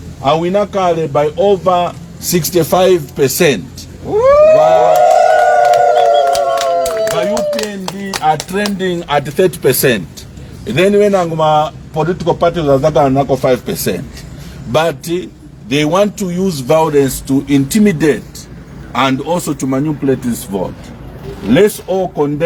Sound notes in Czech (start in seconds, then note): 4.7 Potlesk